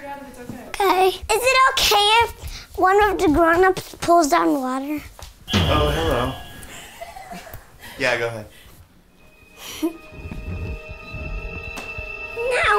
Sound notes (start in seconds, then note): 6.7 adults laugh; 9.2 scary music